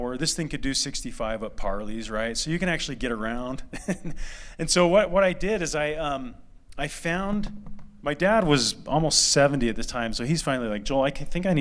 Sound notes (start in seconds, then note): 3.7 laughter